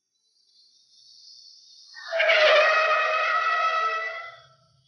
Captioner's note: tires screech